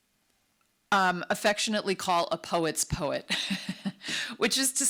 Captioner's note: chuckles